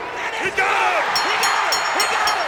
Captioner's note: bell rings